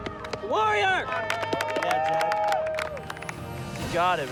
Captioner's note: crowd cheering